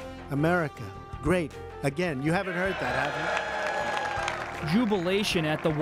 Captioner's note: cheers, applause